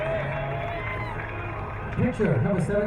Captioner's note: crowd cheering